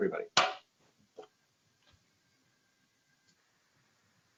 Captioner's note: gavel bangs